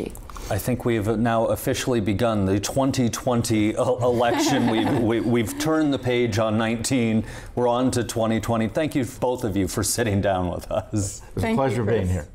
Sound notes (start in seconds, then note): 4.0 laughing